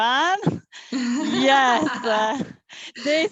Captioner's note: laughs